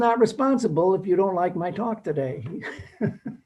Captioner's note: laughs